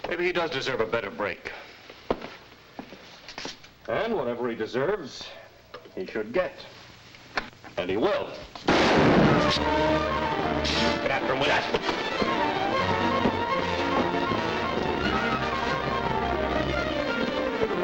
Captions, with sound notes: Maybe he does deserve a better break. And whatever he deserves, he should get. And he will! (gun fires) (thrilling music) Get after him with that! (thrilling music)